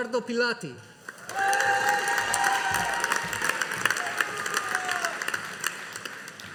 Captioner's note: audience applauding